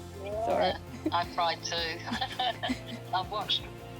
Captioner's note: laughs